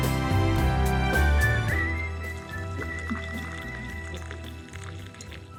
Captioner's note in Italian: Applauso